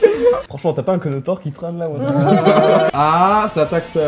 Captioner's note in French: rires moqueurs